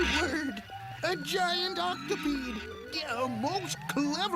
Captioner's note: gasping; Gimmick chuckles